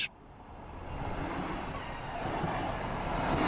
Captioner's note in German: Zuggeräusche